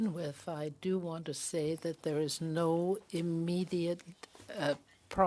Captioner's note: speaking French